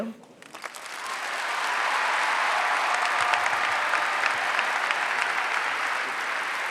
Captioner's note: applause